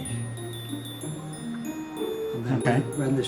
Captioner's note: sounding rather unconvinced